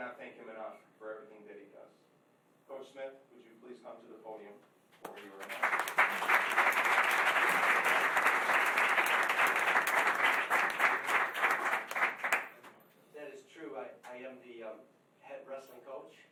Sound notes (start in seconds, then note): 5.0 applause